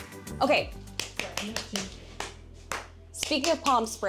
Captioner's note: claps